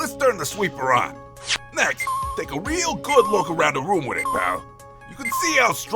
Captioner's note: slow beeping